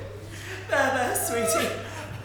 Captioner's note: loud crying